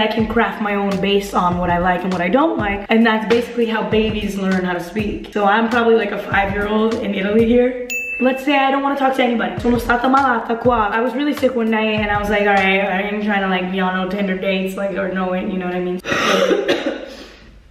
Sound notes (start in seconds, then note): 9.9 speaking in Italian; 16.0 cough